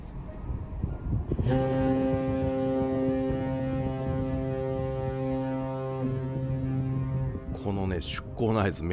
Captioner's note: whistle from the ship